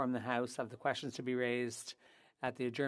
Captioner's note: speaking French